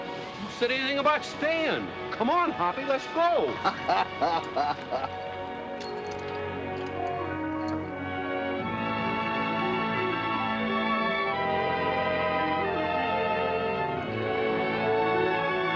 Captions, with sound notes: What are we waiting for? Come on, Hoppy, let's go. [ HOPPY CHUCKLES ] [ EVOCATIVE MUSIC ]